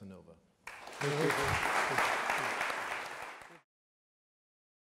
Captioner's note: audience applaudes